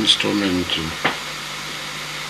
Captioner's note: knock